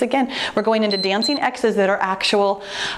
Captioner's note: timer beeps; exhales